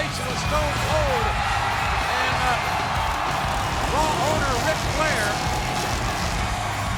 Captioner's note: audience cheering; motorcycle revving